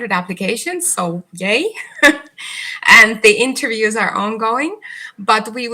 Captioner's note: chuckles